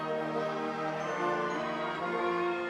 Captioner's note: none